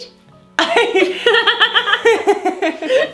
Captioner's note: laughs